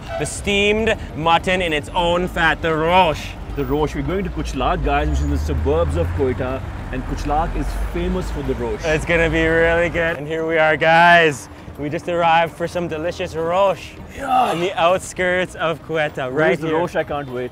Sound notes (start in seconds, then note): none